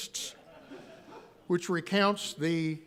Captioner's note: audience laughing